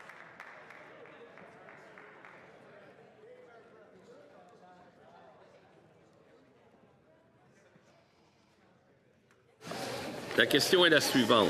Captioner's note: some Applause